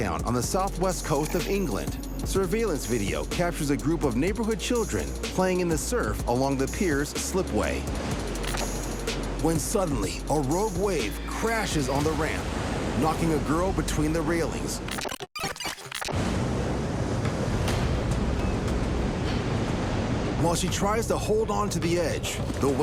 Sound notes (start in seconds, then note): 14.8 tape rewinding; 16.1 tense music